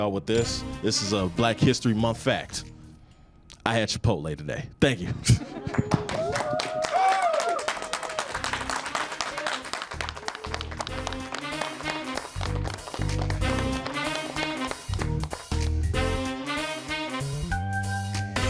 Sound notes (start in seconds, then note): 9.5 audience clapping; 13.4 upbeat music